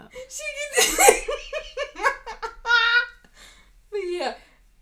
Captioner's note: laughing